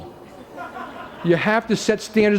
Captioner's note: laughter